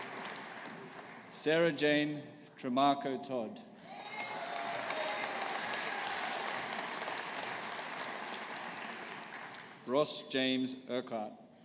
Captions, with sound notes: Sarah-Jane Tremarco Todd. (AUDIENCE APPLAUDING) Ross James Urquhart.